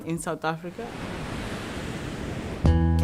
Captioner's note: ocean waves